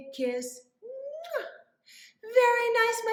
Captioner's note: muah!